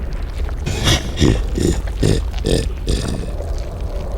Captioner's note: Bleyetcaller laughs